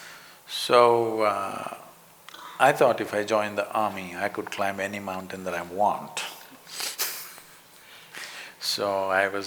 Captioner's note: laughs